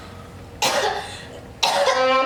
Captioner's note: Phoebe coughs